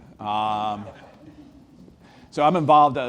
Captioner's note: audience laughs